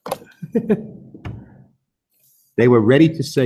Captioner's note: laughs